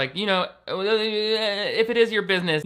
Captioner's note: stammers